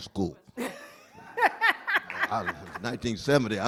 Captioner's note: laughter